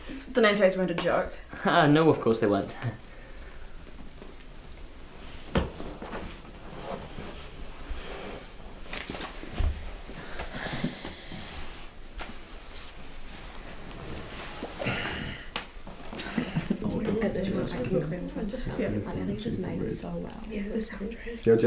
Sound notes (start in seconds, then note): 4.6 rustling, breathing